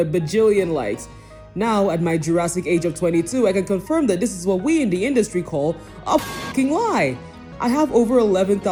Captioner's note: pipe sound effect